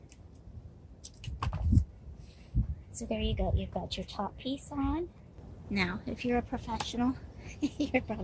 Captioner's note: laughter